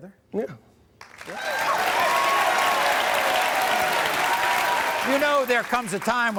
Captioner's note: audience cheering